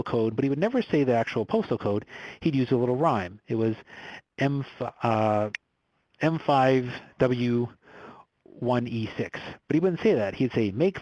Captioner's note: snaps